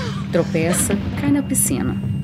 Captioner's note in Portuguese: Som de água